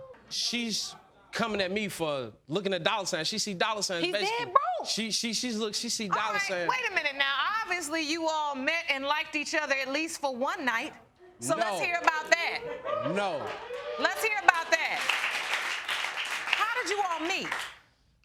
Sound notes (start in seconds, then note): 13.7 audience cheering